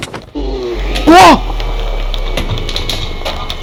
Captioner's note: loud shout